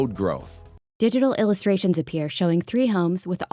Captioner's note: voiceover